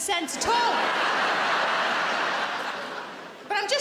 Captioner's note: audience laughing